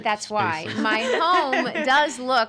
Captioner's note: laughing